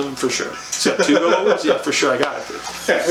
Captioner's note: laughs